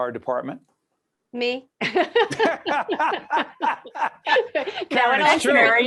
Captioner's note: all laughing